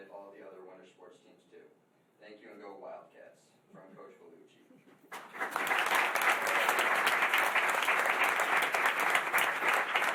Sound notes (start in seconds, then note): 5.1 applause